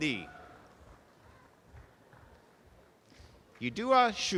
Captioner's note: audience applause